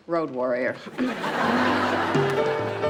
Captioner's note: audience laughs; relaxed piano music